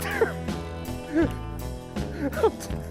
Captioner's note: laughing